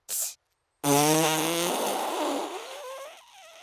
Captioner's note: blows raspberry